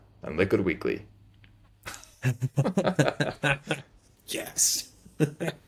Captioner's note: laughing